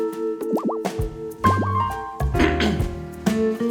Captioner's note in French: se racle la gorge